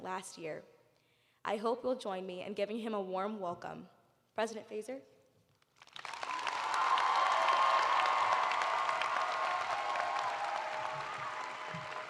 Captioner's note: cheers and applause